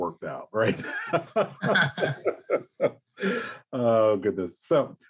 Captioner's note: laughter